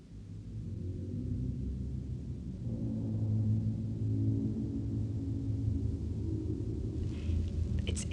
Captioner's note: ominous Sound Effect